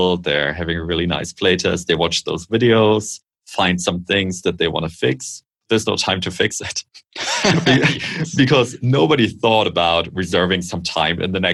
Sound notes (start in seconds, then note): 7.1 laughter